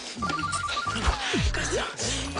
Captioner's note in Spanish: Suena un celular